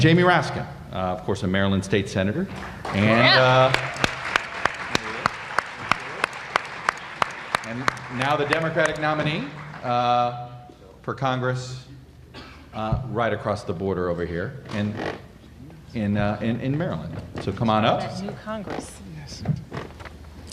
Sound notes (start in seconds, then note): 10.3 applause